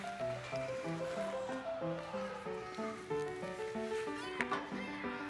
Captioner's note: laughs